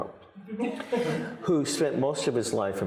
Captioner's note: audience laughing